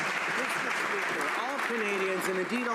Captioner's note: some Applause